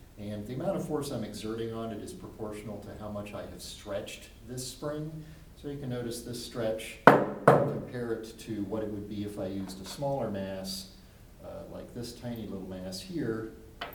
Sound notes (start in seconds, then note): 7.1 weight thuds on table